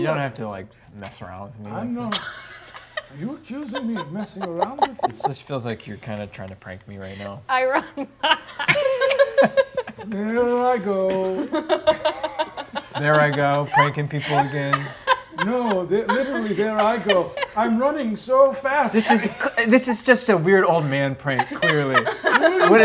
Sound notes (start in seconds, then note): 7.7 laughing